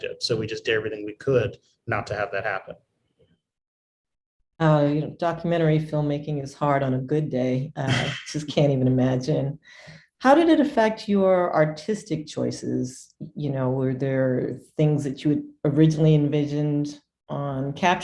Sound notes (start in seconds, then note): 7.8 chuckles